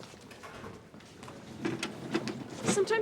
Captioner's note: footsteps shuffle